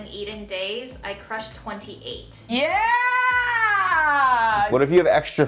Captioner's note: yells